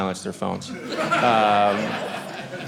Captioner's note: audience laughing